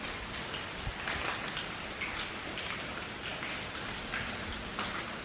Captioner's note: dripping water